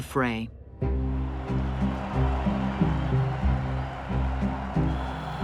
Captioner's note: crowds cheering